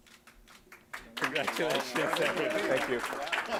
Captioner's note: audience applauding